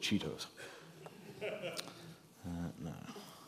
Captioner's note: laughter